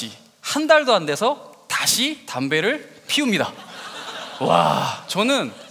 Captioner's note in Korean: 웃음